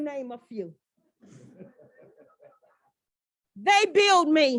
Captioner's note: laughter